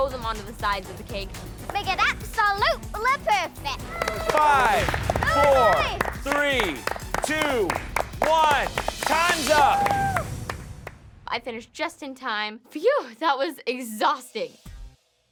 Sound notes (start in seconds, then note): 7.1 applauses; 9.5 applauses